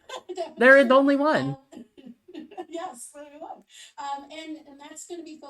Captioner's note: laughs